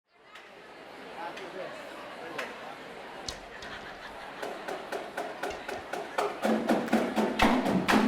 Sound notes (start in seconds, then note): 0.0 crowd chattering; 4.3 drum music